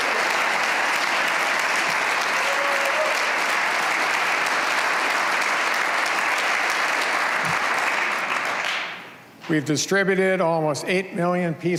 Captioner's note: cheers and applause